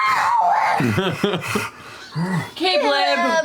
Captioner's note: laughter